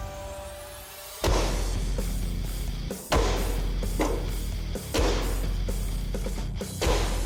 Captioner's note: blade impact sounds